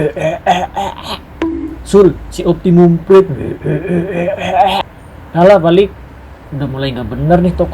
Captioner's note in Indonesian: tertawa